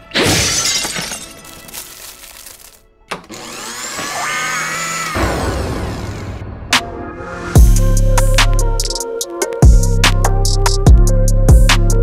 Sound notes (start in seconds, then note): 0.1 glass shattering; 3.2 blender whirring; 5.3 thunder crashing; 7.5 heavy hip hop music